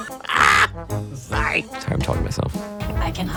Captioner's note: stammers; exclaims